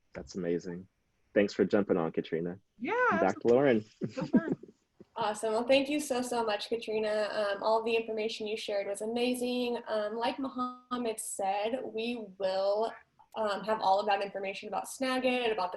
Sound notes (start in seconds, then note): 2.9 laughing